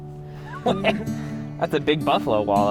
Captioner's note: laughs